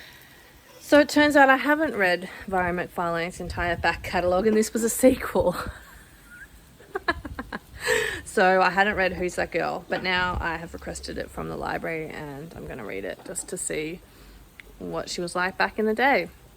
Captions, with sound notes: So it turns out I HAVEN'T read Mhairi McFarlane's entire back-catalogue and this was a sequel! [Laughs] So I hadn't read Who's That Girl. But now I have requested it from the library and I'm gonna read it, just to see what she was like back in the day!